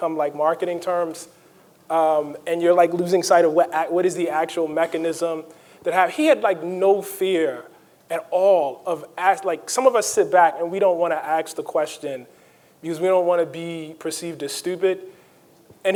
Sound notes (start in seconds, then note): none